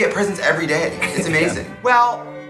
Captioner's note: chuckles